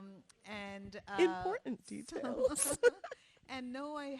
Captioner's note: laughs